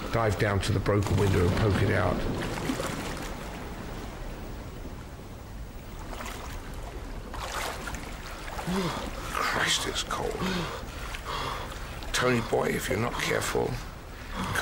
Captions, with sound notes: Dive down to the broken window and poke it out. [water sploshing] Christ, it's cold. Tony, boy, if you're not careful,